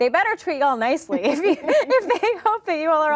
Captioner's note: laughing